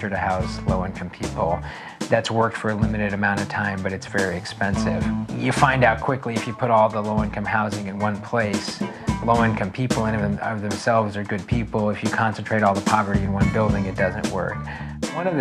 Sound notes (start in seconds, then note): none